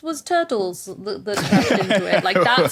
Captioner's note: guffaws